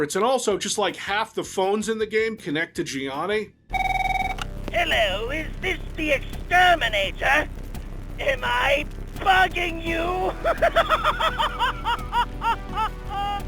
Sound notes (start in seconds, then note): 3.7 ringing phone